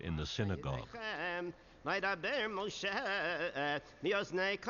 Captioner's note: chanting Hebrew